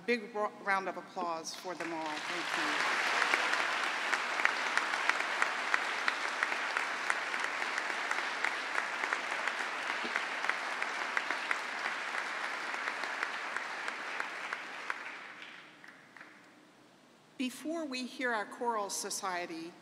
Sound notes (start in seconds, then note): 8.8 applause